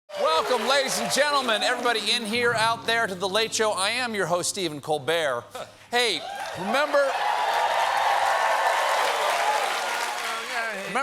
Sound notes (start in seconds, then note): 6.0 cheers and applause